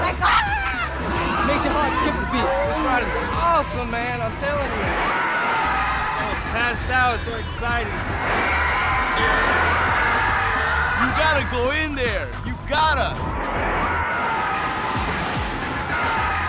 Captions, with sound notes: like ahhhh it makes your heart skip a beat. The ride is awesome man I'm telling you. [screaming] I passes out I was so excited. [screaming] You gotta go in there, you gotta. [splash & screaming]